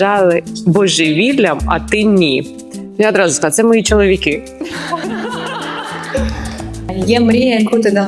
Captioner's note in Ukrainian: сміх